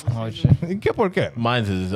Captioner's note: speaking In Foreign Language